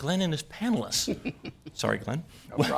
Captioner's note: laughter